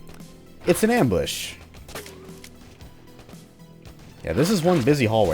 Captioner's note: lots of distant Vulture gunfire